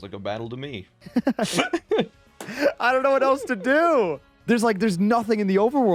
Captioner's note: both laughing